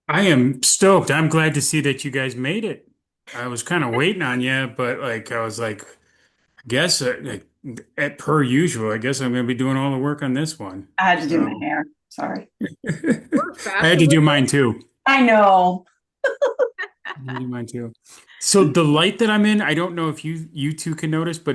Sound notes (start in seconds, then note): 12.4 chuckling